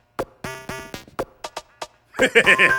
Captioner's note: chuckles